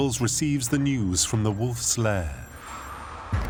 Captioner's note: phone rings